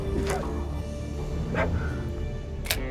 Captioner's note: panting; clicking sound